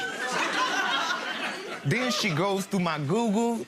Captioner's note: laughing